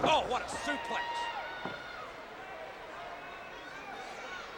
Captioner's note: audience cheers